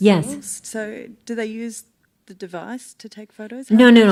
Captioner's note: voiceover